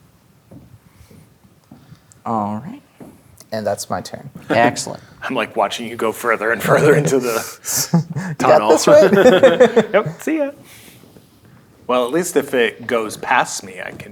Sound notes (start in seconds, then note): 0.4 footsteps; 9.2 players laughing